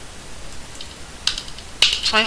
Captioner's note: two loud keyboard presses